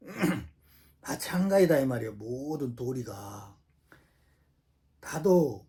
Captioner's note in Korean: 목을 가다듬음